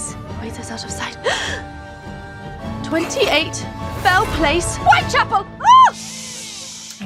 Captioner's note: gasps